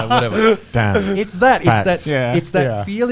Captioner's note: laughing